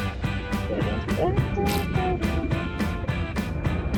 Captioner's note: happily humming